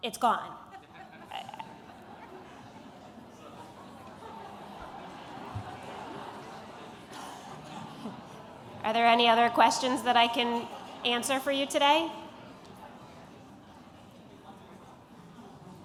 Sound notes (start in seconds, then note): 0.6 laughter